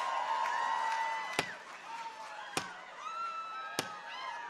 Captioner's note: people cheer; staff thuds